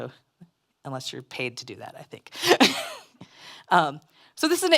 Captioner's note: laughs